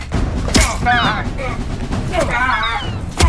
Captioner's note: gull squawking; shovel thumping